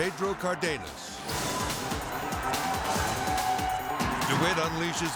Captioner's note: crowd cheering; edgy dramatic music